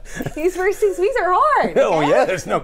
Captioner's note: laughs